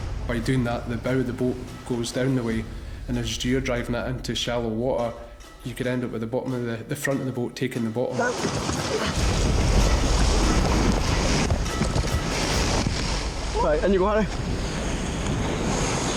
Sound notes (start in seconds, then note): 0.0 dramatic music; 8.3 waves crashing